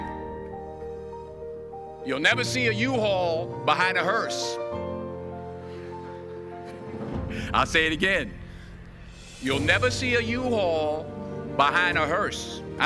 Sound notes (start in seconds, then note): 4.3 audience chuckle